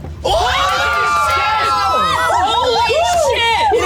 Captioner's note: players cheering